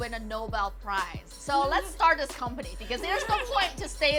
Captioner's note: laughing